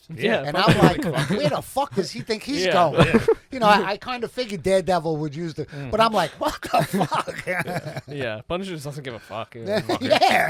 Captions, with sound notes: Yeah. No. Fuck. Does he think he's going I, (laughter) I kind of figured Daredevil would used it, but I'm not. Yeah, yeah, yeah. But it doesn't give a fucking. Yeah, yeah.